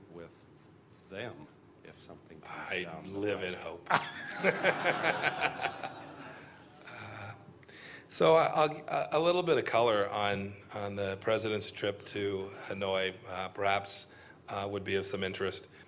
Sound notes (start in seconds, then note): 6.6 laughter